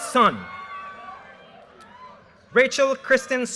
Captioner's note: audience cheers and applause